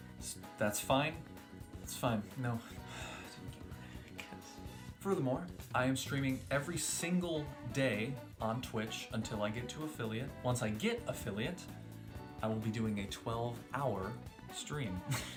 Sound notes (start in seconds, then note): 2.7 sighs; 3.5 whispered